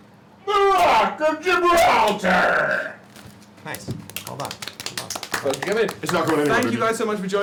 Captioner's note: shouts; clapping